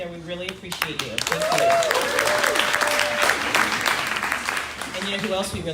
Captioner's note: crowd cheering